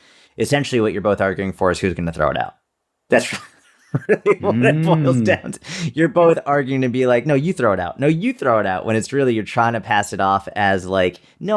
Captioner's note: chuckle